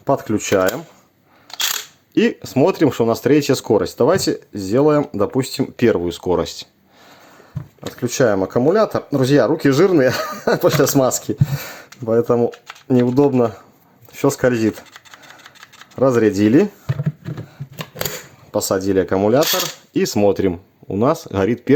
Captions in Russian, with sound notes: подключаем и смотрим, что у нас третья скорость. Давайте сделаем, допустим, первую скорость. Отключаем аккумулятор. Друзья, руки жирные [смех] после смазки, поэтому неудобно. Всё скользит. Разрядили, посадили аккумулятор и смотрим. У нас горит